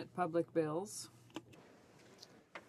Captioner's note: speaking French